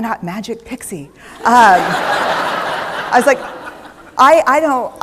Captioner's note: laughter